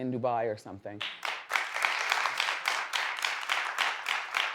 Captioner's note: audience claps